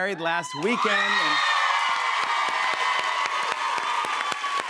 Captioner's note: cheers and applause